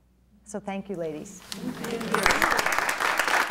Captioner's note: applause